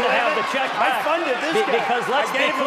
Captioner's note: applause